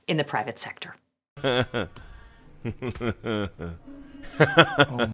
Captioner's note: Elon laughing